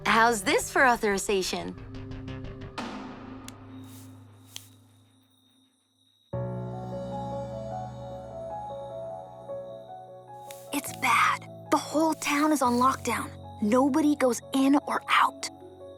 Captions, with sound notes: How’s this for authorization? [crickets chirping] [soft music] It’s bad. The whole town is on lockdown. Nobody goes in or out!